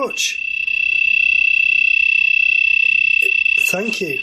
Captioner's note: beeping